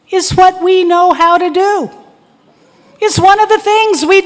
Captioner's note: none